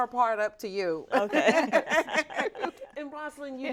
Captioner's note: both chuckling